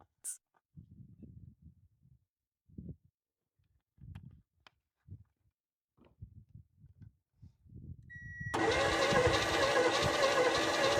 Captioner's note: drilling